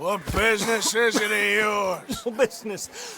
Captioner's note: totally not a TB coughj